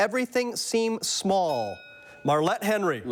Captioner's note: bell dings